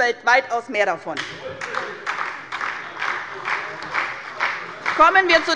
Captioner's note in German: Beifall bei der SPD